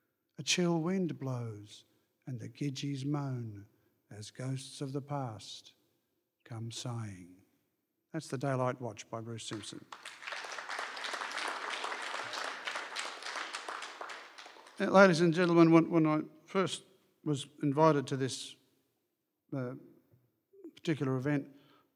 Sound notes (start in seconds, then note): 13.2 applause